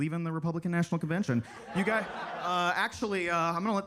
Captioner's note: attendees laughing